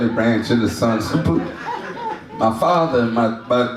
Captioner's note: audience laughs